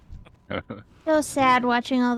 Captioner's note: laughs